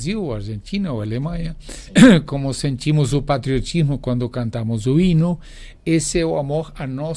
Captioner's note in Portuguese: limpando a garganta